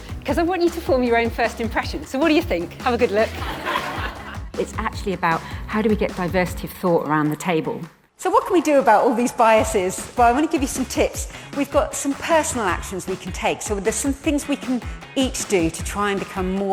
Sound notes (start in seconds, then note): 3.0 audience laughing